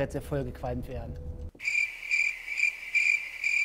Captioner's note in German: Grillenzirpen